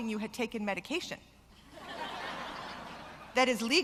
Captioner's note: laughter